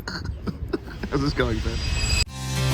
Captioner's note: chuckling